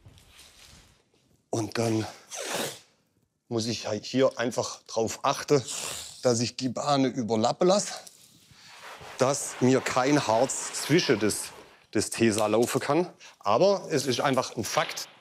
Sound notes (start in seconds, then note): none